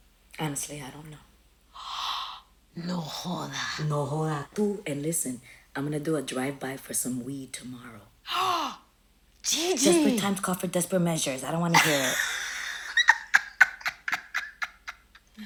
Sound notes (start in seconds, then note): 1.8 gasps; 8.3 gasps; 11.7 laughing